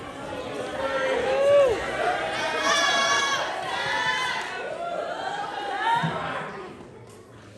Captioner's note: applause